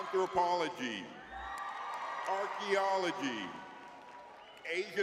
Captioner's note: audience cheering